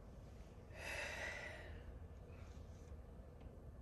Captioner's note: deep breaths